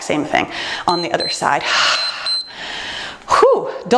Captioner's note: timer beeps